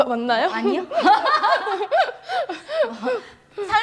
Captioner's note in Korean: 웃음